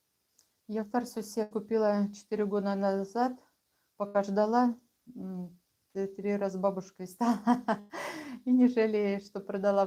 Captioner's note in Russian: смех